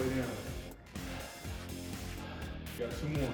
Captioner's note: exhaling